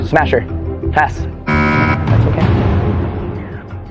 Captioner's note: buzzer sounds